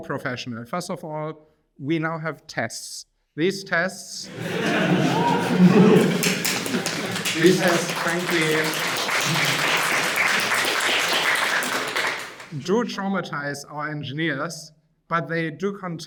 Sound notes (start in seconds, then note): 6.2 audience laughing; 7.0 audience applauding